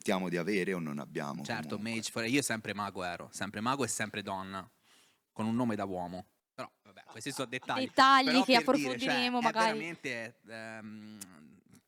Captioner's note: laughing